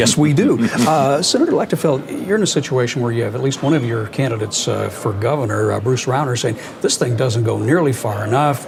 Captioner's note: laughing